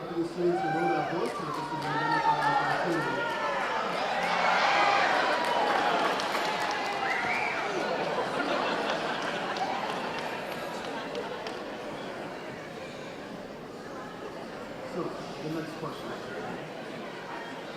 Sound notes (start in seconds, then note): 3.2 audience cheering